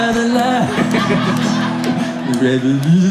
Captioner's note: audience laughs